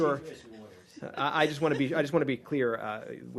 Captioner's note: laughter